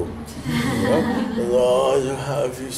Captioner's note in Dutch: gelach